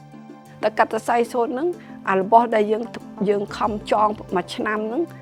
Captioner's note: speaking foreign language